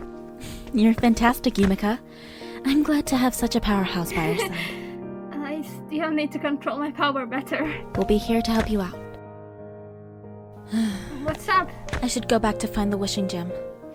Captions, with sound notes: You’re fantastic, Yumeka. I’m glad to have such a powerhouse by our side. (Yumeka giggles) I still need to control my power better. We’ll be here to help you out. (Yuki sighs) What’s up? I should go back to find the Wishing Gem.